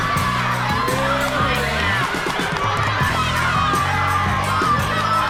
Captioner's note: 6th graders of cheering